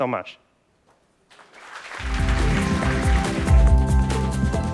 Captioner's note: applause